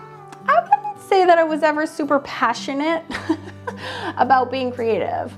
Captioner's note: laughs